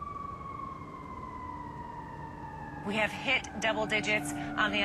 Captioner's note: siren blaring in distance